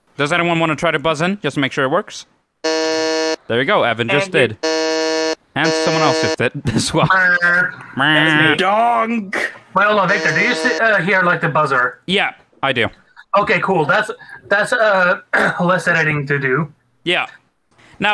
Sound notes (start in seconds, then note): 4.6 buzzes; 6.6 snicker